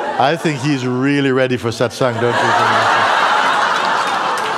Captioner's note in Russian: взрыв смеха